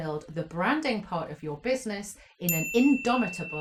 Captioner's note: bell chimes